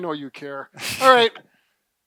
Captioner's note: laughs